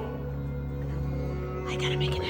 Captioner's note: whispering